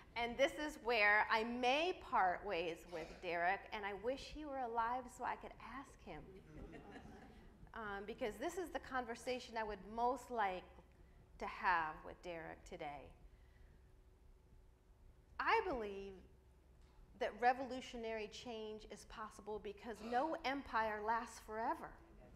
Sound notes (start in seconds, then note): 6.4 audience laughs